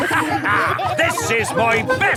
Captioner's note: all laughing